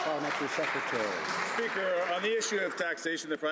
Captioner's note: some Applause